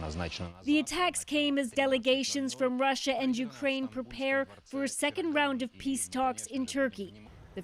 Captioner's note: speaking alternate language